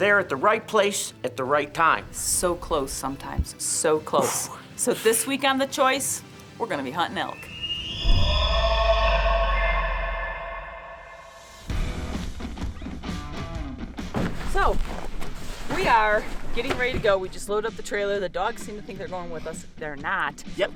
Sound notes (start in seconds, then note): 7.2 elk bugling; 11.9 upbeat music